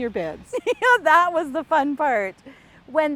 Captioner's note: laughs